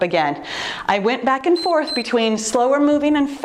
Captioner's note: timer beeps